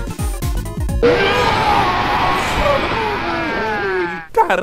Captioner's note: Mario vomits